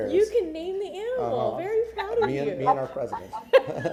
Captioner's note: laughter